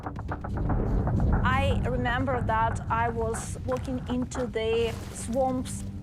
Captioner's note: speaking English